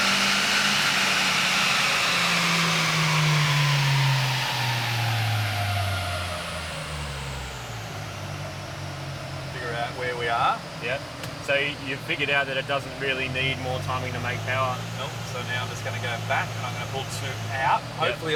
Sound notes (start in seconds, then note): 0.8 engine decelerates